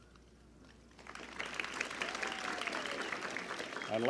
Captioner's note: applause